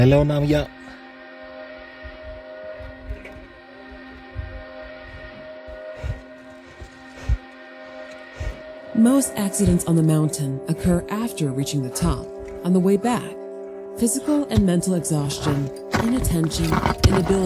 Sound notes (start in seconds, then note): 5.5 sound of heavy breathing